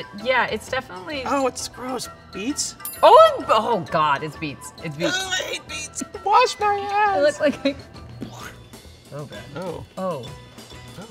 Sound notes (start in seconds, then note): 7.7 chuckles